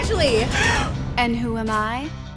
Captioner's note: slow rock music; gasps